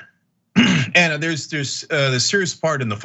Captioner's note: cough